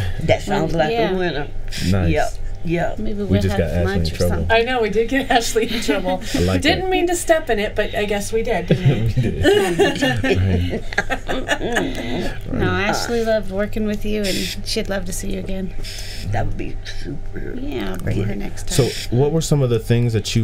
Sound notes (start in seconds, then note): 8.5 group laughing